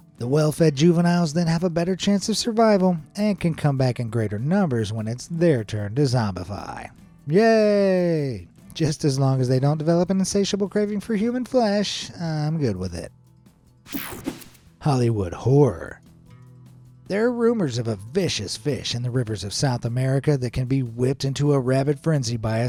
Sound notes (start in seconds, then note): 13.8 screen buzzes and whooshes